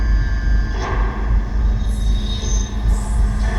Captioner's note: ghostly voice